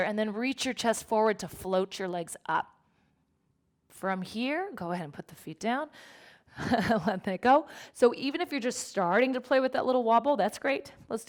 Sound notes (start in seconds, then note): 6.6 chuckles